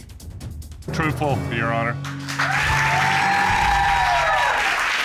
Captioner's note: audience cheering